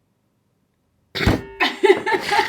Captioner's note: desperate laughing